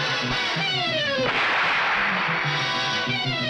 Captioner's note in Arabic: اطلاق النار بالبندقية; تستمر الموسيقى المتوترة